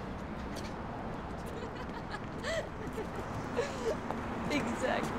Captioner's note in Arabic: بيا تضحك